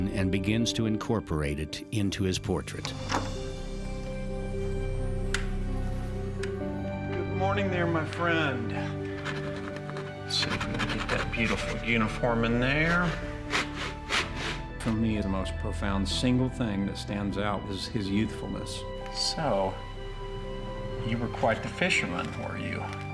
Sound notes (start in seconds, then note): 4.6 flicks light switch; 13.2 scratching on canvas